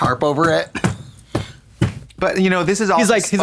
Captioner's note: Katya slaps